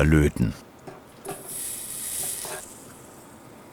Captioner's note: A tingling hiss